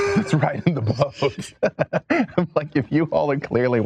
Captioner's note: laughs